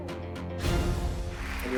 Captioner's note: cheers and applause